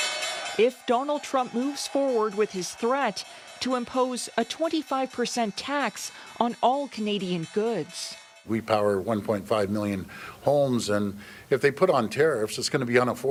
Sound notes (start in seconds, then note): 5.8 sound of bell ringing